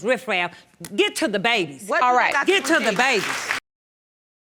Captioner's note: audience applauding